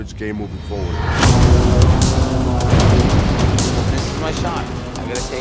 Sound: exploding

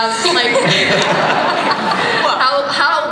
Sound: laughter

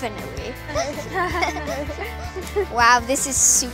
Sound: girls giggling

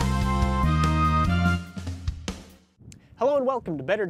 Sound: wind, footsteps

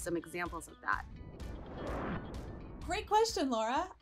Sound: sound wave

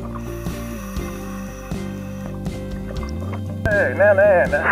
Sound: air hisses

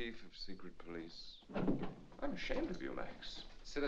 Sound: doors burst open

